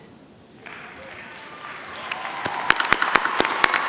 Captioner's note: applause